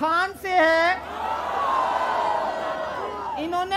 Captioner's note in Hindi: चियरिंग